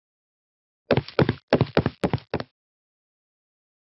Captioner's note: steps